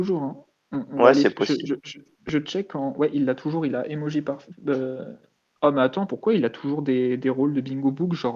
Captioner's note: laugh